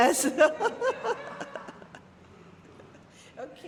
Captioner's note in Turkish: kahkaha